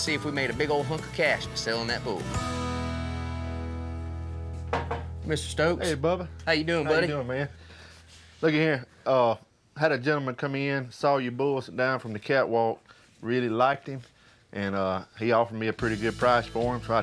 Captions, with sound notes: WE MADE A BIG OL' HUNK OF CASH FOR SELLIN' THAT BULL. [KNOCKS ON DOOR FRAME] MR. STOKES? HEY, BUBBA. HOW YOU DOIN', BUDDY? HOW YOU DOIN', MAN? LOOKY HERE, UH... I HAD A GENTLEMEN COME IN AND SAW YOUR BULL DOWN FROM THE CATWALK AND REALLY LIKED HIM. AND UH... HE OFFERED ME A PRETTY GOOD PRICE FOR HIM SO